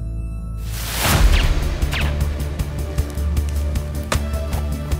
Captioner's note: intense music; guns firing; dart thuds